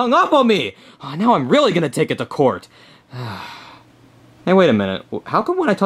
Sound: sigh

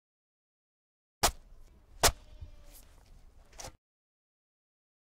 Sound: sound of digging

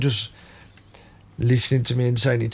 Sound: silence

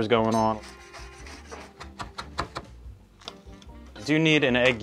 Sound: knife chopping

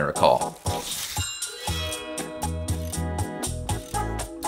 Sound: zinging

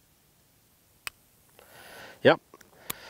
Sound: gun clicks

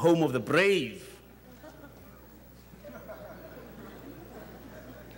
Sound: audience chuckles

